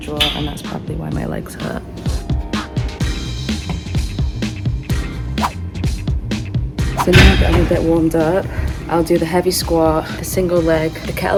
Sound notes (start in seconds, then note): 2.2 upbeat music; 2.2 whoosh